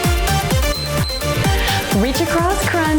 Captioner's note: timer beeps